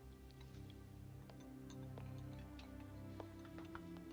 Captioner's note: dishes clacking